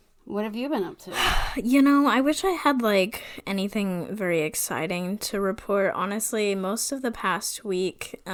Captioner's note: sighs